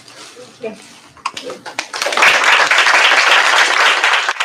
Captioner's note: applause